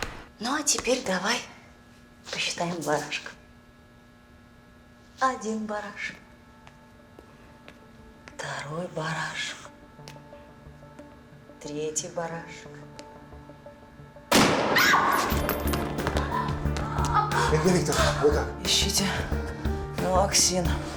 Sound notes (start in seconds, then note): 14.3 gunshot; 16.3 liuda wailing